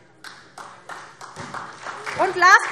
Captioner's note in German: Beifall SPD